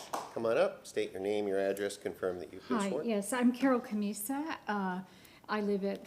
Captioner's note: applause